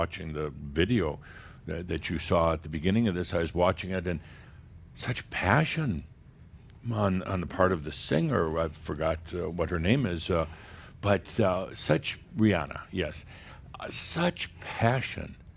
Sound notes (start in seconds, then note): none